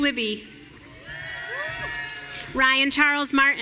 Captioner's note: audience cheering